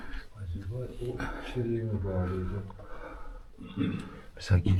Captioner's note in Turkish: boğazını temizler